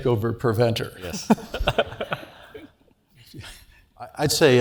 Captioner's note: laugh